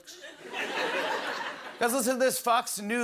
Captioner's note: As Trump; normal voice